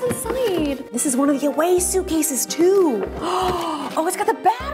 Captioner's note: gasps